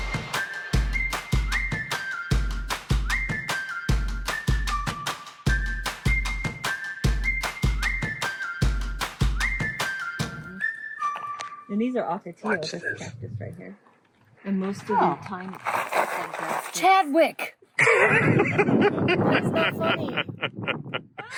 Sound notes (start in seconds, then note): 15.0 gravel crunching